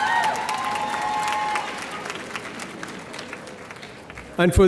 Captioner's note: audience applauding